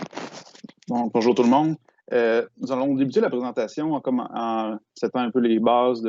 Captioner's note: speaking in foreign language